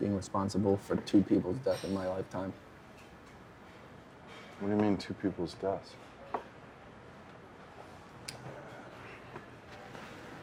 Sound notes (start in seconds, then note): none